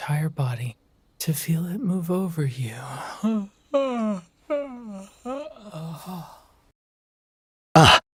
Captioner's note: yawning